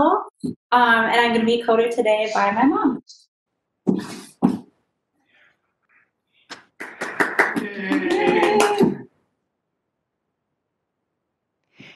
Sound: cheering

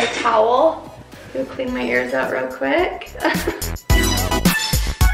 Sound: laughs; upbeat electronic music

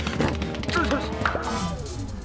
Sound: exclaims

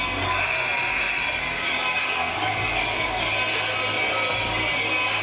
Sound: game buzzer buzzes

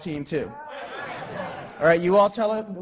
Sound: laughing

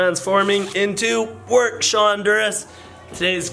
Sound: none

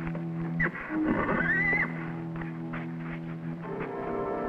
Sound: Champion neighs

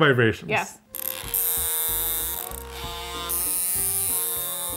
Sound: vibrator buzzes

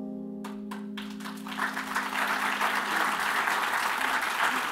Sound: applause

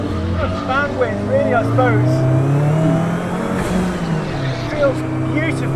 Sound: car engine roars

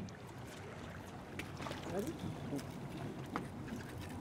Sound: fish splashing

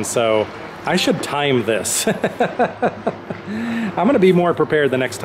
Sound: laughter

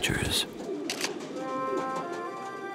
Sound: camera clicks

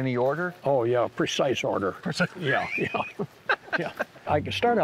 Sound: laughs

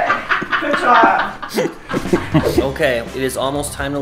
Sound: man laughing

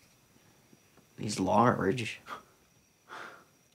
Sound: scoffs

